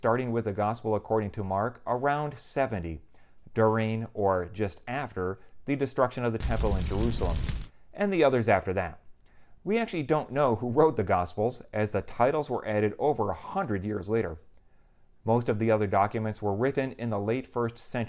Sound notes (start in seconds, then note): 6.4 fire sound